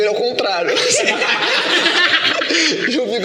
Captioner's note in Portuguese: risos